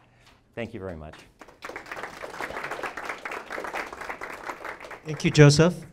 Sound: audience clapping

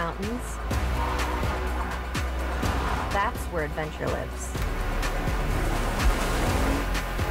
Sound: horn sounding

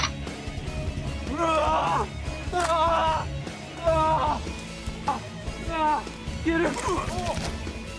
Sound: yelling

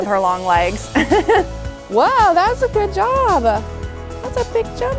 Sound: laughs

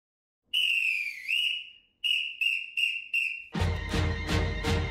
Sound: whistle blowing

